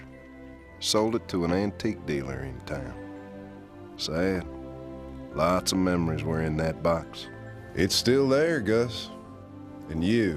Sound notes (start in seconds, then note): none